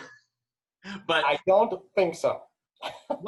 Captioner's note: laughter